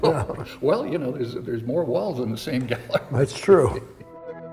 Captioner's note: chuckling